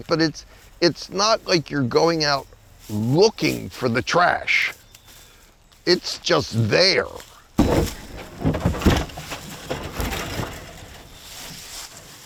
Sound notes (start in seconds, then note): 7.5 items clattering